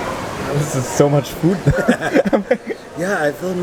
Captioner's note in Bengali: হাসি